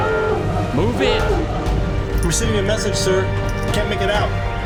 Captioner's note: horn blares